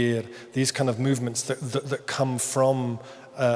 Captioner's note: speaks in foreign language